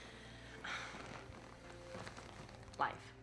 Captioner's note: sighs